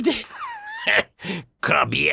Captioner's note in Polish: śmiech Wojtasa